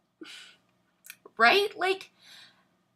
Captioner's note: sighs